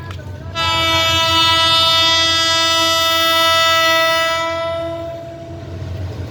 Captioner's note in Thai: แปร๊น